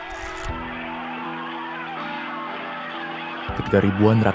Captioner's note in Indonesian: suara orang-orang berteriak